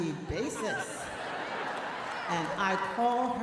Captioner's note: audience laughing